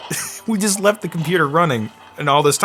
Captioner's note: laughing